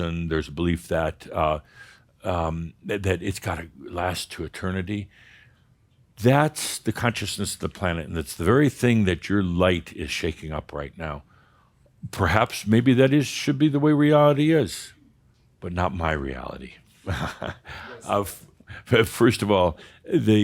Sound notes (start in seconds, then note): 17.0 Adamus chuckles